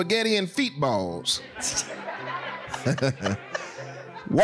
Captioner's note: laughing